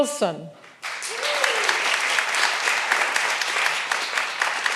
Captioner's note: all applauding